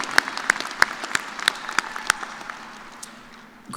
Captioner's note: cheers